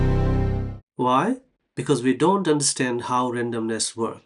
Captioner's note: dramatic sound